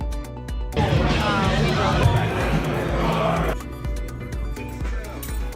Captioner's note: background chatter and music